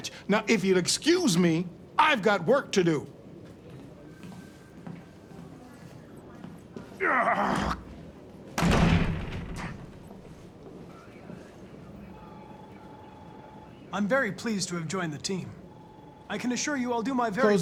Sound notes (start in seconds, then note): 7.1 angry growl; 8.6 door slams